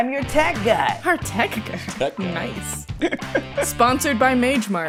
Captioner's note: laughter